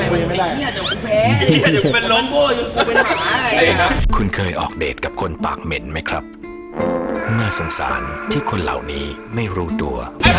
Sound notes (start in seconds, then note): 6.7 farts